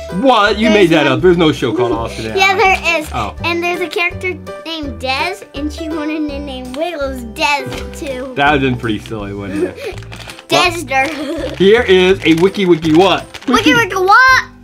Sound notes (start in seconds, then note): 11.0 assistant giggling